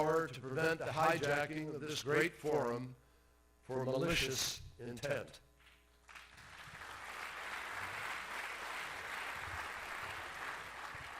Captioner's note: applause